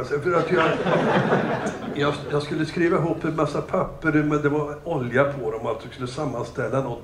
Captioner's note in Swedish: Skratt